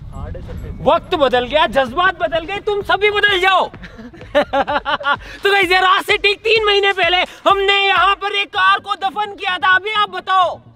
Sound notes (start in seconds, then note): 3.7 laughing